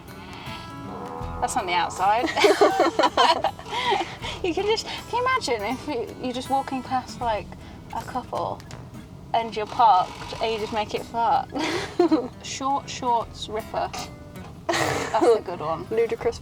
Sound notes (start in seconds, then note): 0.1 farting sounds; 14.7 small fart sound; 14.7 giggle